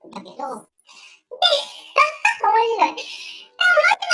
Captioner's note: laughs